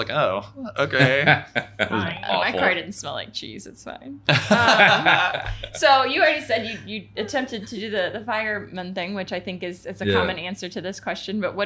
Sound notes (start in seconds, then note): 4.3 laughing